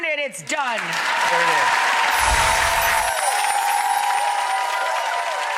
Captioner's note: cheers and applause